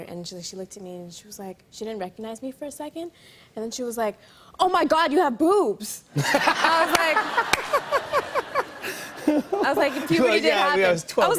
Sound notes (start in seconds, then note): 6.2 laughter